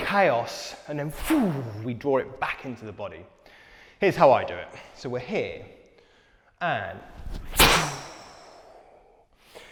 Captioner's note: pwhooo